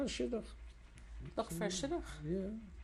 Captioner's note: yiddish